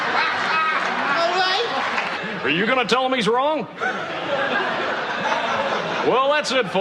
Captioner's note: Risos